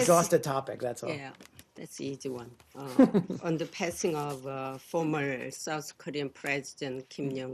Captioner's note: laughter